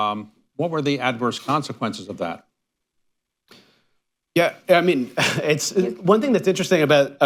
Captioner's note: laughs